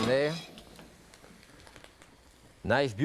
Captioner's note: lid clattering